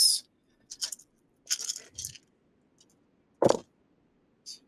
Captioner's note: dice clank